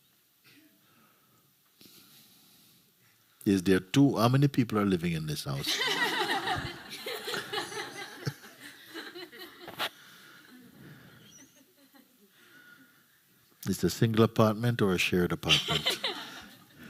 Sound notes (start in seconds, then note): 8.8 laughter; 15.4 laughter